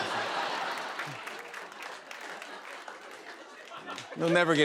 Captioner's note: laughter; applause